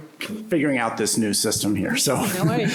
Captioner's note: laughter